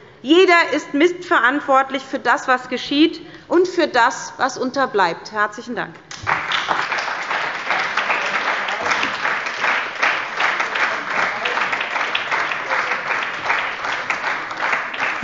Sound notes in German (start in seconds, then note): 6.3 Beifall bei der SPD und der LINKEN